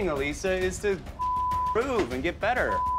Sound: beep

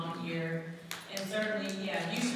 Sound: audience applauding

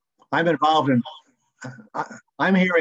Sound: echoing

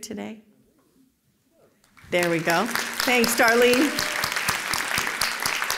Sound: applause

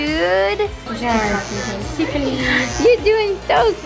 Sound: razor buzzing

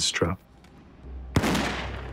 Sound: gunshot

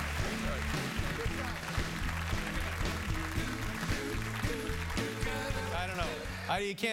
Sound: applause

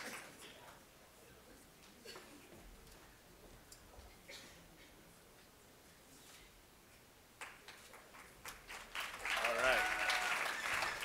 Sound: cheers and Applause; cheers and Applause

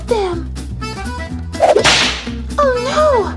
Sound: whip cracks

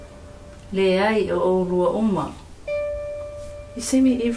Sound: speaking in Samoan

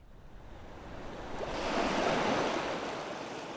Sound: ocean wave sound

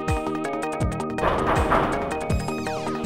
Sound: knocking

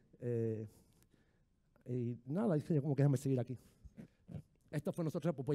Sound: speaking in foreign language

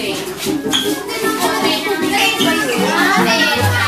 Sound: chattering

